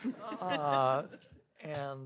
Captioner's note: audience laughing